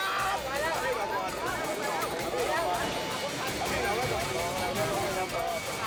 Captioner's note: hostage and captor shout; bystanders and captor chatter